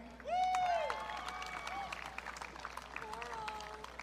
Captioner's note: audience cheering